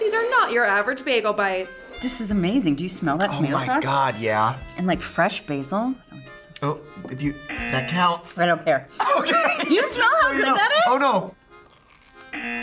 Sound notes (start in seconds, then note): 7.3 buzzer rings; 8.9 laughs